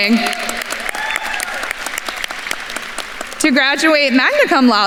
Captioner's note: attendees cheering and applauding